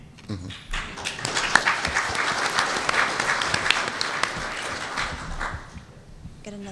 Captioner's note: applause